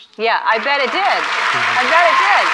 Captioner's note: audience applauds